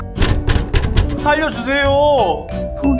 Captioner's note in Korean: 쾅쾅쾅쾅